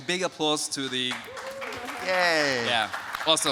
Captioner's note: audience applauding